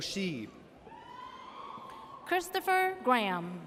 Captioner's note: audience cheers